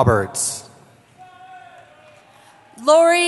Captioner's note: cheering